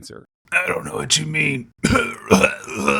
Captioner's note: coughing